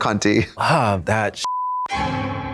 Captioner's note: beep; eerie tone